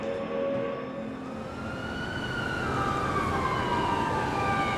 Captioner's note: sirens wailing